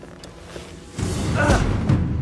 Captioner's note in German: ächzt